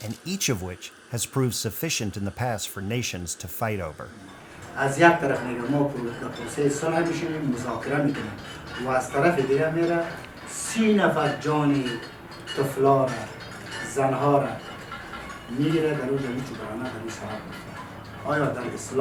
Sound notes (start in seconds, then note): 4.5 speaking in a foreign language